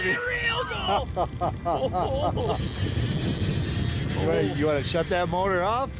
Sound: laughing

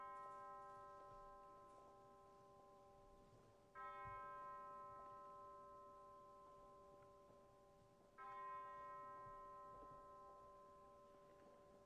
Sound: bells tolling

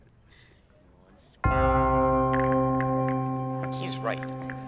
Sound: stand-off bell dinging

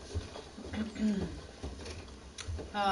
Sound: clears throat

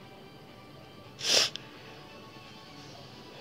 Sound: sniffing

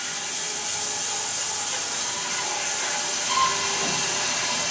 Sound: saw blade whirring

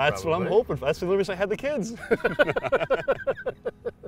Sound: laugh; bright music

